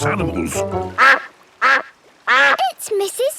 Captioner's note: quacking